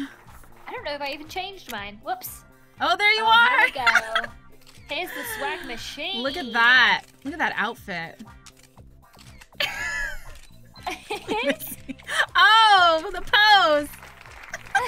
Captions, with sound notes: I don't know if I even changed mine, whoops! Oh there you are! Oh here we go! Here's the swag machine! Look at that Look at that outfit [Laughs] Lizzie... Oh! The pose!